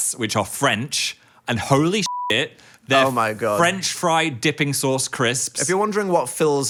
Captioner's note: beep